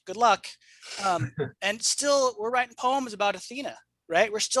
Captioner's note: laughs